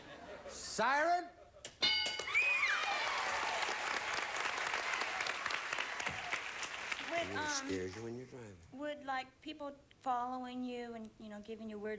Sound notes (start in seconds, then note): 0.0 audience laughing; 2.2 audience applauding